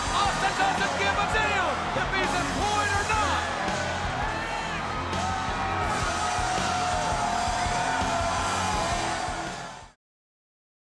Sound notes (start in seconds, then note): 3.7 crowd cheering; 3.7 hard rock music